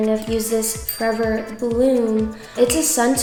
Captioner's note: bell chimes